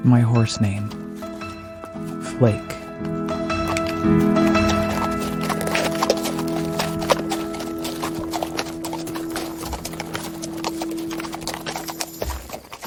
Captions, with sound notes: My horse name, Flake. (piano music) (horse gallops)